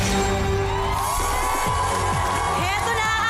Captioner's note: theme music playing; audience cheering